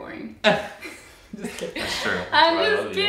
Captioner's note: laugh